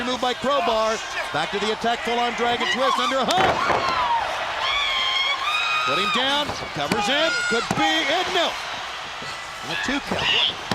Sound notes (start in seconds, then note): 3.2 crowd cheering